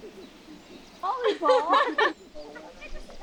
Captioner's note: girls giggling